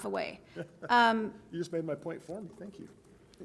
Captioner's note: chuckles